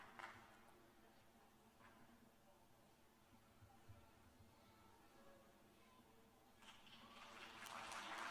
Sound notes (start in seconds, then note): 0.8 applause; 6.7 cheers and applause